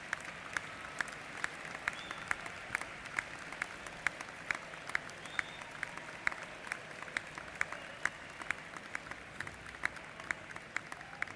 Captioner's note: applause